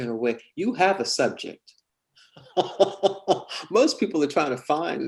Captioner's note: laughs